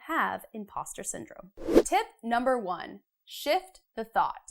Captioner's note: frame whooshes